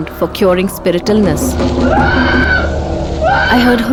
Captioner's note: screaming